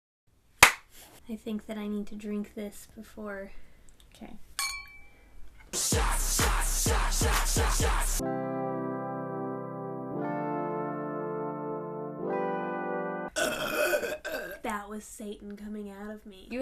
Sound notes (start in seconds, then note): 4.6 sound of glasses clinking; 8.5 intro music; 13.3 very loud belch